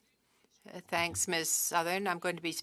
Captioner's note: speaking French